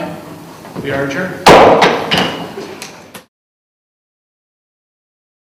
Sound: gavel thumps

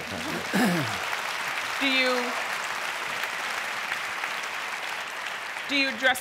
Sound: applause

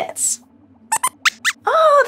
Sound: squeaks squeaks

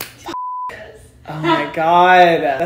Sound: beep

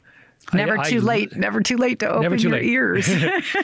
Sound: laughs

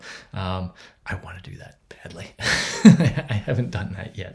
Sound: laughs

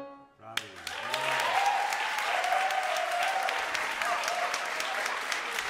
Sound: applauding and cheering

